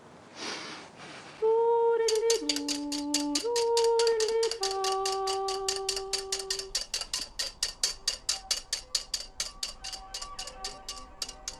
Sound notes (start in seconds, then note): 1.5 whisk clattering